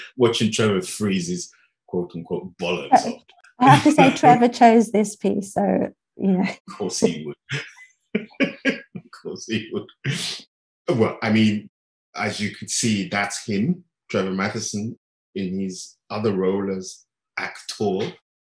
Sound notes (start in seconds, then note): 8.1 lauging